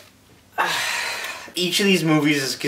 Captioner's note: sigh